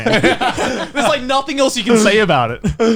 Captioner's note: group laughing